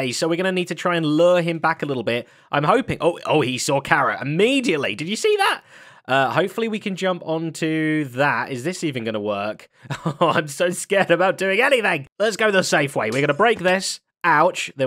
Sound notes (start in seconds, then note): 9.9 laughs